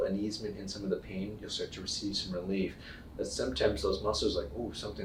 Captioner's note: none